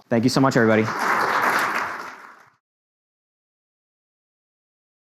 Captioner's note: audience applauds